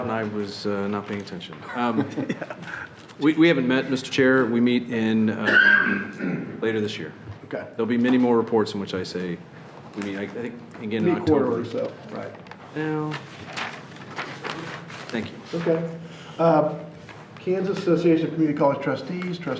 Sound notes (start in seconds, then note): 1.6 chuckling